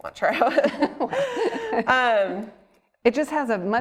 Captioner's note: both laughing